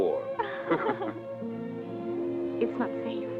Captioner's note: both laugh